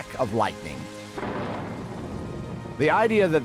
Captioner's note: <i> thunder rumbles</i>